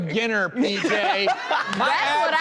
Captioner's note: audience laughs